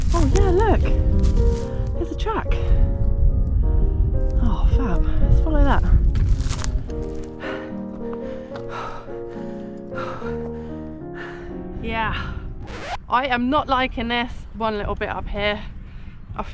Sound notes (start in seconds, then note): 7.6 huffing & puffing